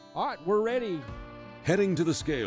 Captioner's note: voiceover